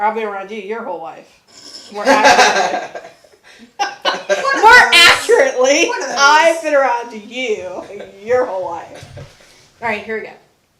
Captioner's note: videographer and Daughter laughing